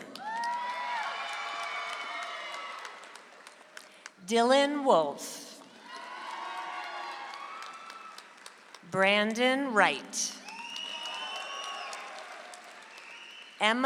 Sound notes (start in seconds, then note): 0.0 audience applauds; 5.7 audience applauds; 10.4 audience applauds